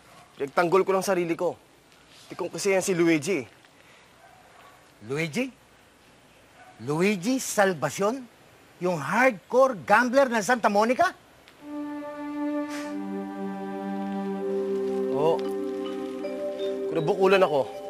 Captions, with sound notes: I'm just defending myself. Luigi's being a bad sport. Luigi? Luigi Salvacion? The hardcore gambler of Sta. Monica? [Paski scoffs] Yes. He hit me.